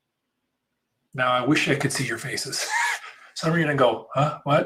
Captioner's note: laughs